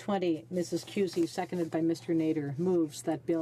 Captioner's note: speaking French